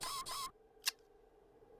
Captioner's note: servos whining; whirring; clicks